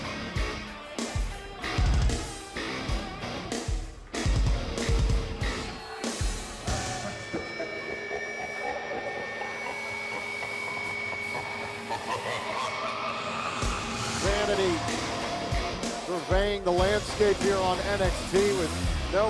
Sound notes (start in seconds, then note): 8.5 evil laughter